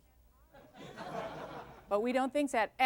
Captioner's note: laughter